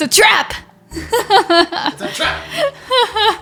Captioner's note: laughs